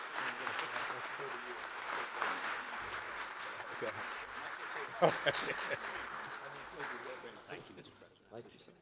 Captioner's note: applause